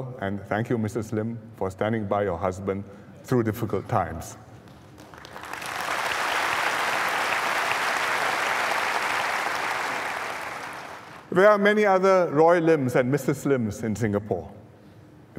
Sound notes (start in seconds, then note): 4.6 applause